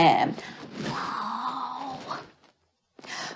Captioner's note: whispers